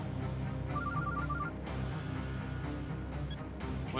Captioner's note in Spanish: suena el celular